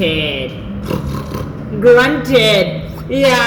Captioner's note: snort snort